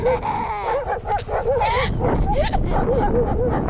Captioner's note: laughs; barks